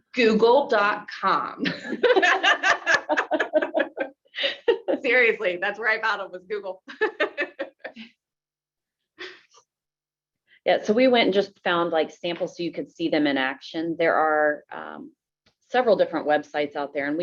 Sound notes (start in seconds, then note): 1.6 all laughing; 6.9 laughs